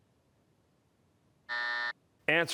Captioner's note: buzzer